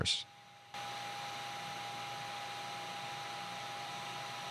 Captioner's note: machine whirring